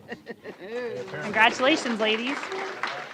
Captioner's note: applause